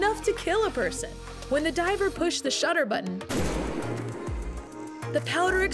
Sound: explosion

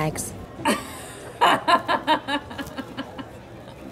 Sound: laughs

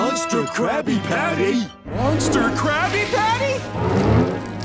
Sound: toilet flushing

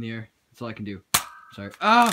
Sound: gun shot

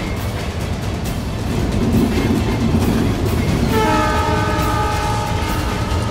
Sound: train horn blaring

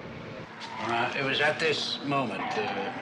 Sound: tires screech

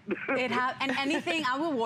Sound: laughter

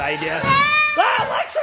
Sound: screaming

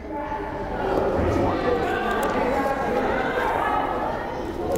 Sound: crowd chattering

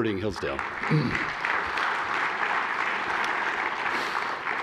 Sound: applause

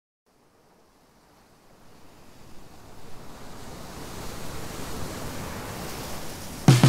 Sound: olas rompiendo distantes

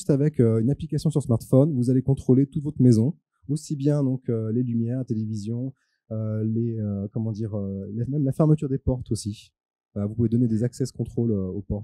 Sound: translating into french

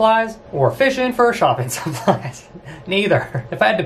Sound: laughs

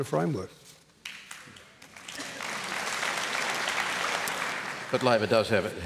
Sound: applause

